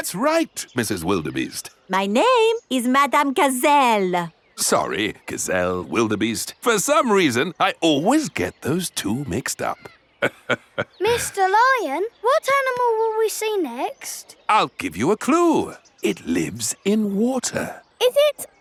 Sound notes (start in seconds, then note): 10.2 laughs